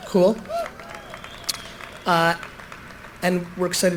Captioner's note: applause, cheering